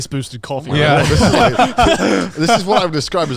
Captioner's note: all laughing